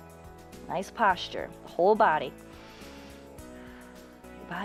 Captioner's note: inhales and exhales